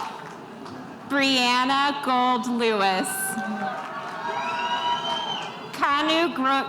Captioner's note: spectators cheering